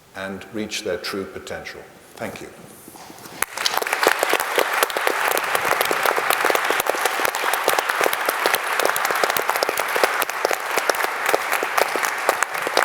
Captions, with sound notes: and reach their true potential, thank you. (audience applauding)